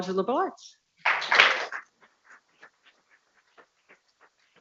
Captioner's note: people clapping